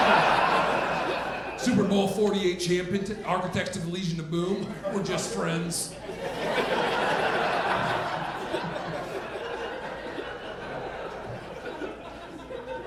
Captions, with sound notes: Super Bowl 48 Champion architects of the Legion of Boom. We're just friends." (audience laughing)